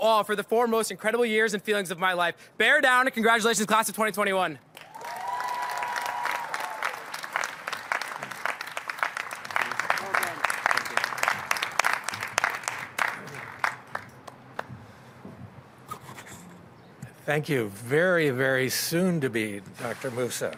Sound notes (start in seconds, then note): 4.7 applause